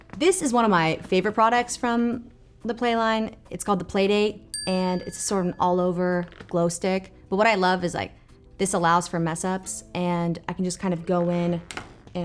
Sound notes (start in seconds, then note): 4.5 bell pings